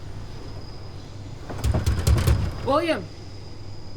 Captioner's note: knocking on door